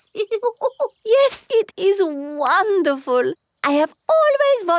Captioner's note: laughs